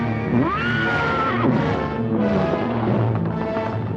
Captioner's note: horse whinnying